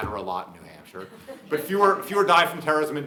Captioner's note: audience laughing